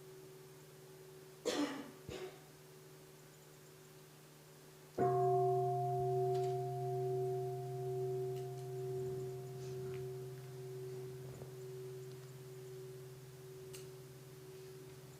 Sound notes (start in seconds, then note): 5.0 bell